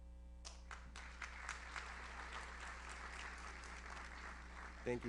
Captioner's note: audience applauds